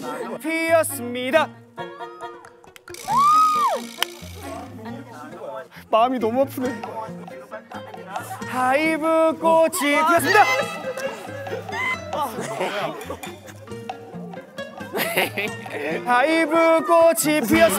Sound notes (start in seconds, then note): 12.2 giggling; 14.8 laughing